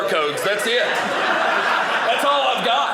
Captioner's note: audience laughing